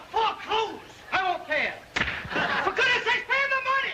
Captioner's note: hand smacking